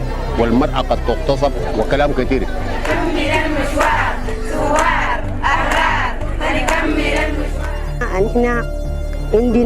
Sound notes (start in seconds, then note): 2.8 women chanting and applauding